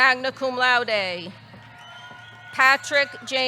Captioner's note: audience cheering